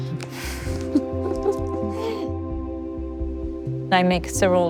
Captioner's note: laughs